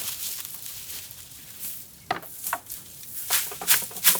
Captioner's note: flaxseed rustles